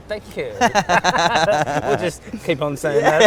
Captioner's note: laughs